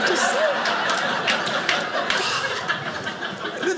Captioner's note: audience laughing